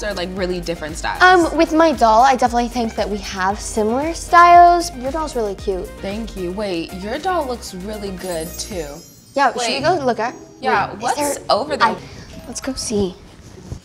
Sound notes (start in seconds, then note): 7.9 bells chiming